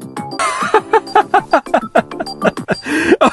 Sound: laughing

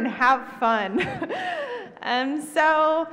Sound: laughs

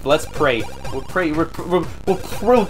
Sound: stuttering with "We'll pray."

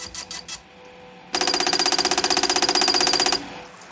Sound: alarm sounds

